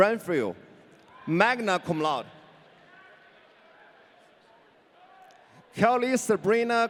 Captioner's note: audience cheering